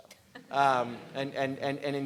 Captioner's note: laughing